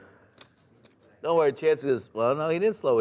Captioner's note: voiceover